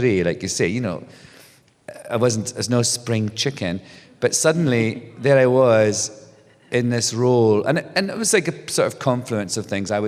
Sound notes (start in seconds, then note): none